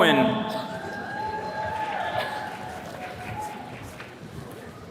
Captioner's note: attendees cheering